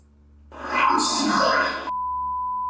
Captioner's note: beeps; disembodied Voice